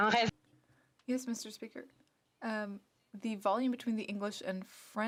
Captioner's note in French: voix de l'interprète